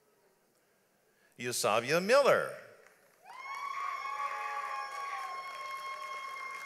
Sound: audience applauds

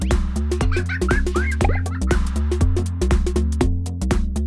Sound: laughter

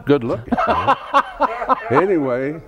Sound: laughs

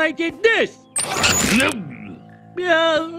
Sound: grunt

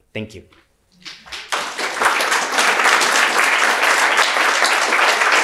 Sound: audience applauding

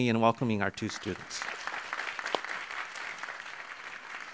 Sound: audience clapping

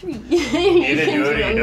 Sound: laughing

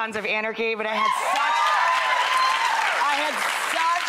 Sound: applause

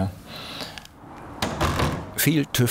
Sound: rumble

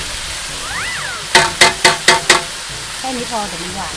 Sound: pan cluttering sound

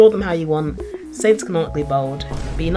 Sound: boom

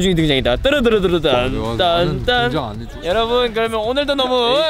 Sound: grumbling

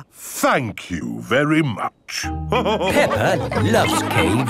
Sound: all laughing

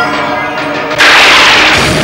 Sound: thundering

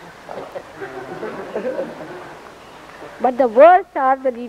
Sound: laughter

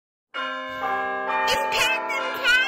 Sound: bells ring

